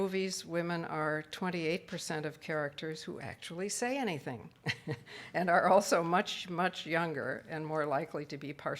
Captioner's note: laughs